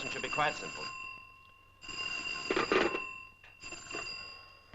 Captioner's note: phone ringing